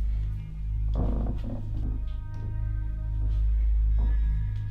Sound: creaking

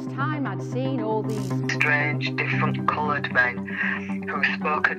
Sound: radio voice

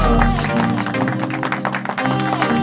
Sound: applause

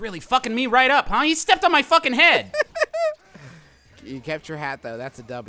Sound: laughing

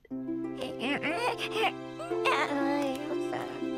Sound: cooing

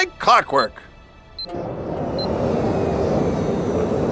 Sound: beeping

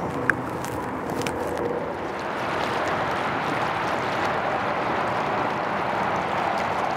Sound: vehicles whooshing; water gently rushing

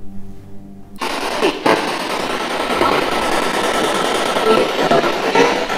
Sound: spirit box buzzing; spirit voices

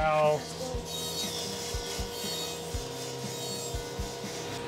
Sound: saw machine noise

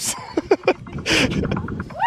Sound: laughter

